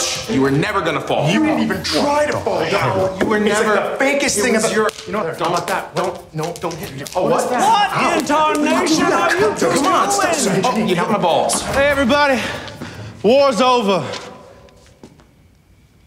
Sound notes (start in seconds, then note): 4.7 slapping; 6.4 men arguing